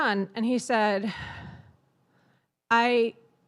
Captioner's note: sighs